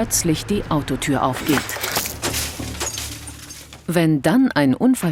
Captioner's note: bang